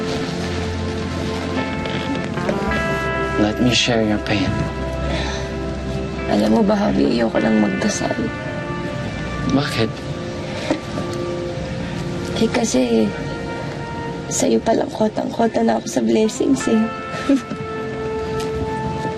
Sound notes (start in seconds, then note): 17.2 leah chuckles